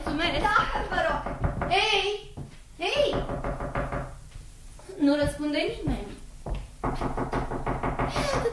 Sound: knocks on the door

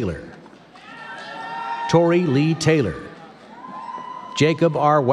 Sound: none

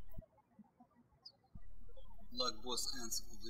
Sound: birds chirping

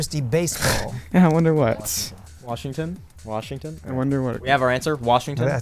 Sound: wispering

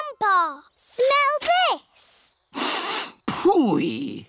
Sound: sniffs

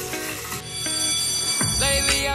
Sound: school bell ringing

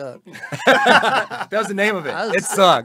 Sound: laughing heartily

